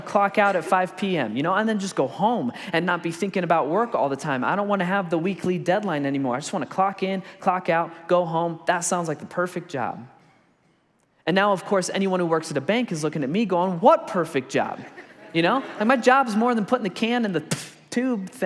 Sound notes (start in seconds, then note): 14.8 congregation laughs